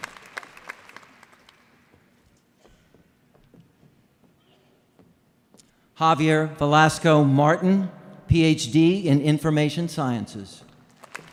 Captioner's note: applause